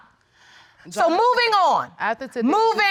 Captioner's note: stammers